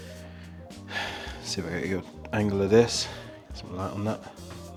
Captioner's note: sighs